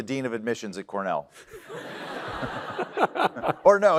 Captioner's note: laughter